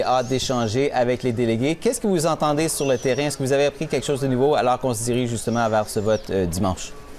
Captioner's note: speaking French